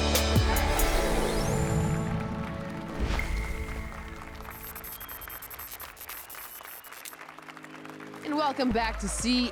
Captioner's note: applause and cheers